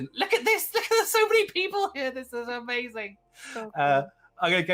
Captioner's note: laughs